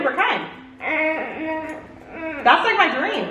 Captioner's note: groans